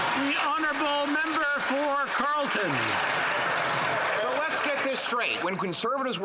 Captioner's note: applause